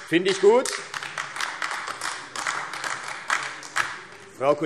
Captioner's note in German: Beifall AfD